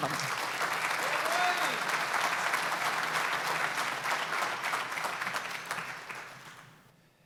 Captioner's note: applause